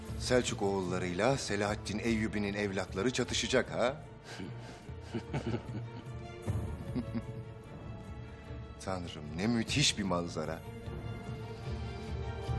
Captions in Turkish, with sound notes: Selçuk oğullarıyla Selahattin Eyyubi'nin evlatları çatışacak ha? (Gülme sesleri) Tanrı'm, ne müthiş bir manzara.